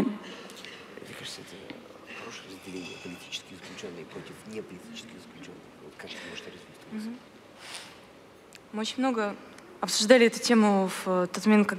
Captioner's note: foreign Language